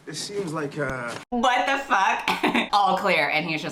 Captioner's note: laughs